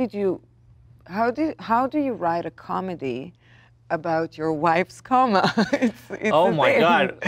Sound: laughs

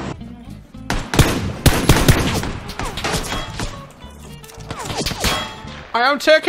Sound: gunfire

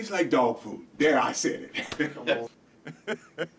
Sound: chuckles

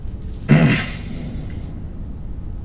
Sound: grunts

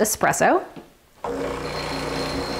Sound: whirring

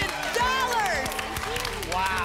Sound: applause and cheering

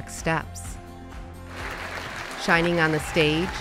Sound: crowd cheering

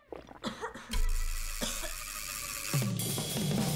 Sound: coughing; fast jazz music

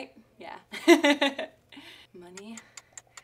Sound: laughs; clock ticks

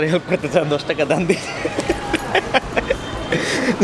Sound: laughs

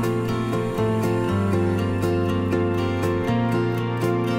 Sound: none

